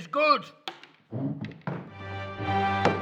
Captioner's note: chair slides; mic clatters; dramatic news intro music